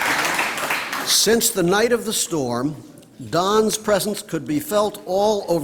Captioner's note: applause